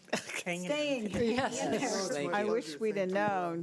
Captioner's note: overlapping chattering